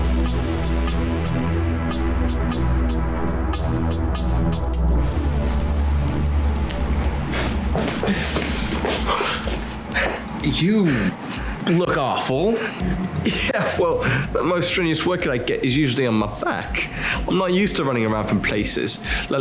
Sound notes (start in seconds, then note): 7.8 panting